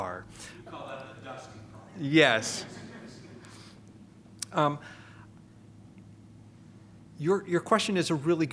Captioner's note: laughter